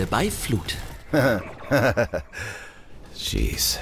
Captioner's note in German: Ingame-Lachen